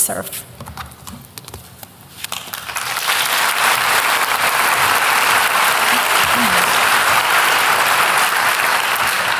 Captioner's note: applause